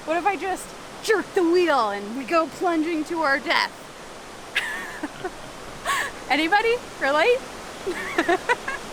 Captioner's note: laughs